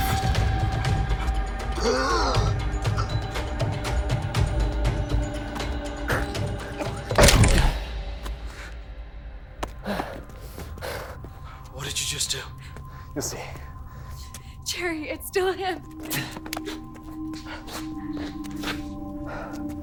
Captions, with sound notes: (Marie gasping) (Adam panting) - What did you just do? - You'll see. - Gerry, it's still him. (melancholy music begins)